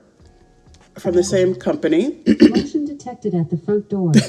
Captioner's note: laugh